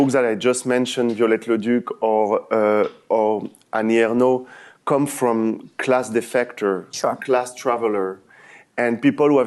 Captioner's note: french